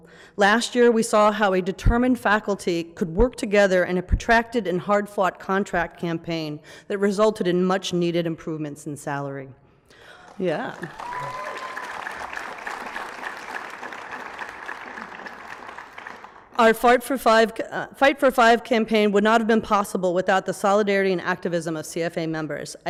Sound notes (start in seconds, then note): 11.7 applause